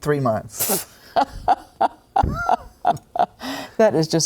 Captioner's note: laughs